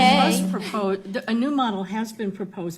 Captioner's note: laughs